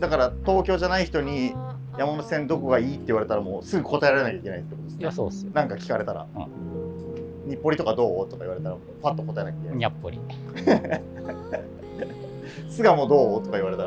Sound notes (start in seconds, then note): 10.5 laughing